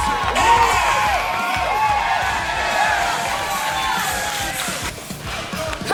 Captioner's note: crowd cheering loudly